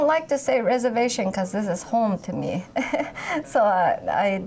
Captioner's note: laughs